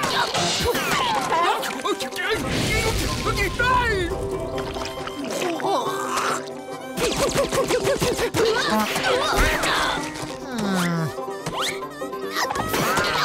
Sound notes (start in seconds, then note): 1.7 grunting; 7.9 grunting